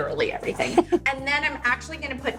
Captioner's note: Dean laughs